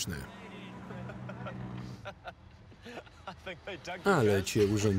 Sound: laughs loudly

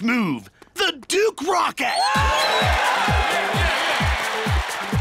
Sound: cheers and applause

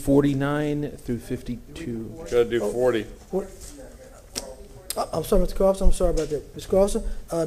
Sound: off microphone

